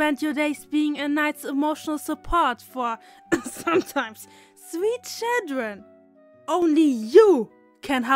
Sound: cough

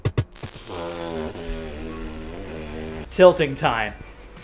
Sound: static crackling; upbeat drum music; lips sputtering

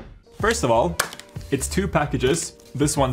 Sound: claps

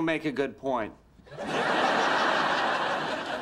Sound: audience laughter

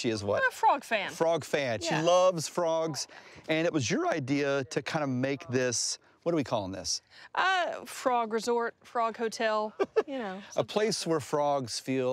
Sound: laughs

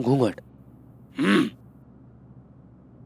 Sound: clears throat

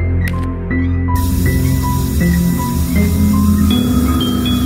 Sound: hissing

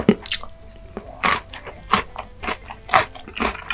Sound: crunching

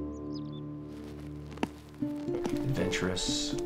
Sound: roots pulling free from dirt

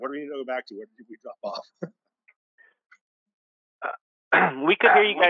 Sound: audio cuts out speaker

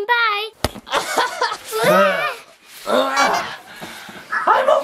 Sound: laughing

